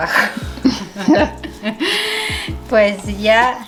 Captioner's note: laughing